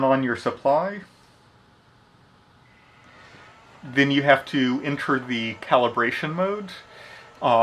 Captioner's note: fan noise starts